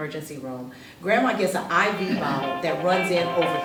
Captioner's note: ringing